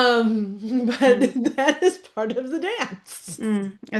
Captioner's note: laughs; laughs